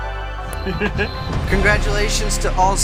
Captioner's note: laughs